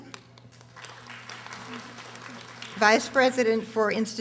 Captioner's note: audience applauding